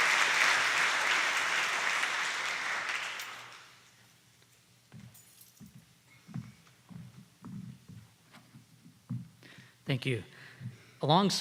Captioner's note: applause